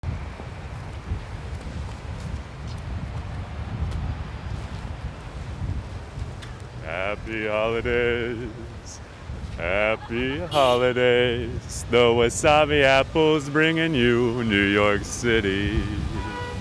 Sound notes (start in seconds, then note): 0.0 streets sounds; 6.5 singing